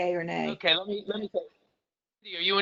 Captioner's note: murmurs